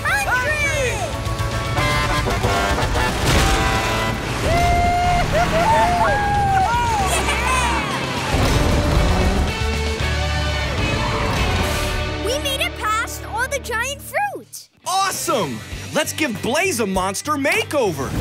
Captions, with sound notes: [honking] Whoo hoo hoo hoo! Oh, yeah! We made it past all the giant fruit. Awesome. Let's give Blaze a Monster Makeover.